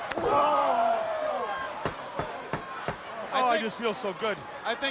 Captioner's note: crowd chatter